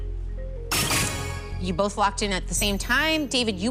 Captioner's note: chime, chime